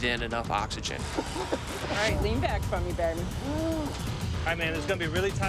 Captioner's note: coughing